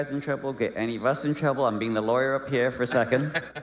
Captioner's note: laughs